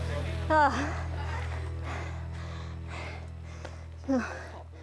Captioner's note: breathing heavily